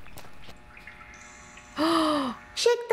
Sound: gasps

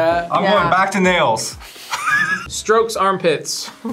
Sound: React laughs; laughs

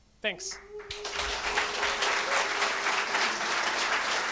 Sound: audience applauds

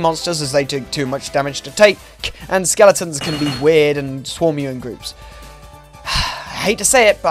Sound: sigh

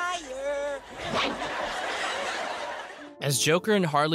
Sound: whoosh

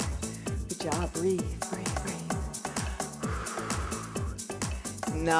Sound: breathing

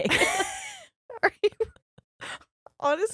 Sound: both laughing

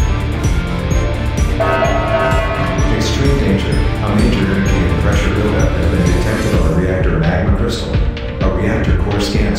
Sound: announcement Chime

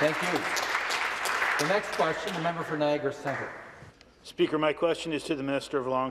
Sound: some Applause

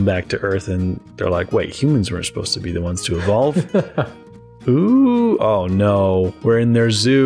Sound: laughter

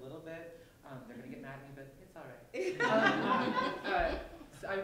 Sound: laughter

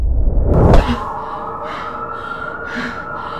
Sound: sirens wailing

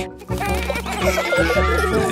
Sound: children giggling

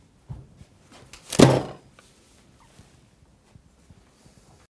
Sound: paper slams

